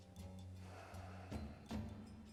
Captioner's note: sighs